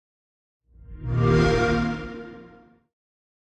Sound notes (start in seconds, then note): 0.9 xbox sound